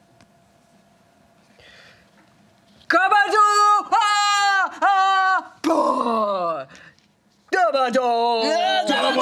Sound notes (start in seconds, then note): 3.0 excited grunting